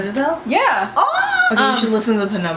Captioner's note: screams